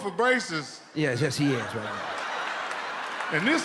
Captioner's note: audience laughs